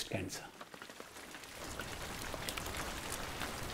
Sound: rain patters

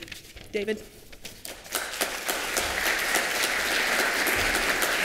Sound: applause

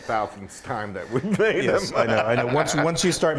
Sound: laugh

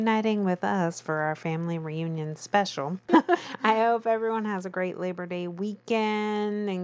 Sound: laughs

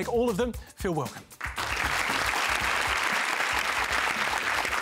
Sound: applause

